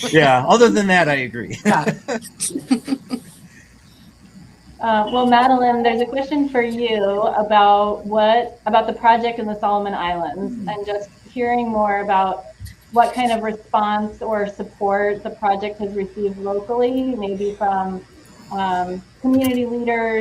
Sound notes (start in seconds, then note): 1.5 panelists laughing